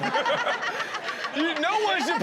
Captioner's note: Chanel and audience laughing